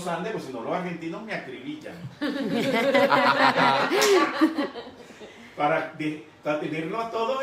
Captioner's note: laughing